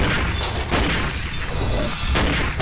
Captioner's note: gun shots